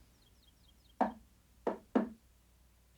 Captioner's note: knocking on door